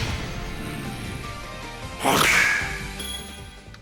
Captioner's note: growls